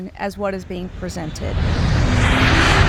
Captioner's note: plane engine roars